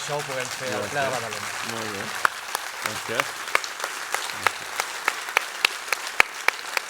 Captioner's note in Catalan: aplaudiments